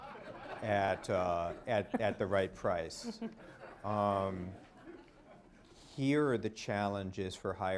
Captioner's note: laughter